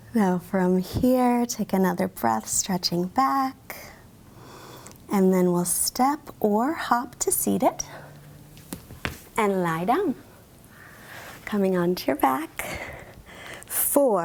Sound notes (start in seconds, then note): 4.3 inhales deeply